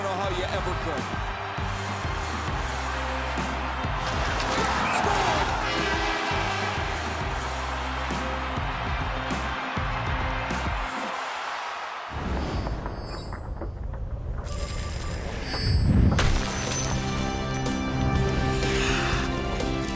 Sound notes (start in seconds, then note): 10.5 cheering